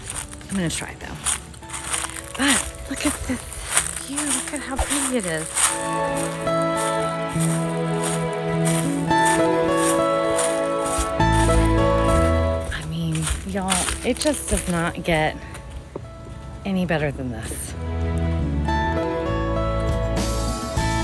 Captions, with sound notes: I'm gonna try it, though. But look at this view. Look at how pretty is it. (upbeat music continues) (leaves crunch) I mean, y'all, it just does not get any better than this. (upbeat music continues)